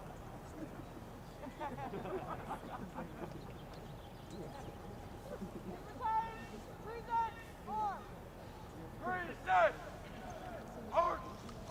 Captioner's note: shouted commands